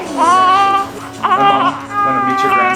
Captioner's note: baby cooing